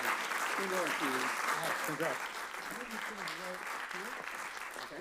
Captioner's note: presenters talking softly